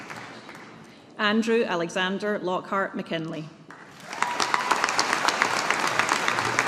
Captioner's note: audience applauding